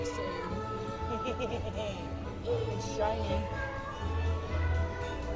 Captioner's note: laughs